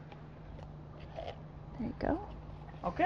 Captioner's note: quietly